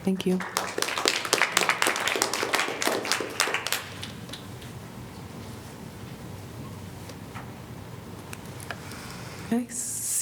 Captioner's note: applause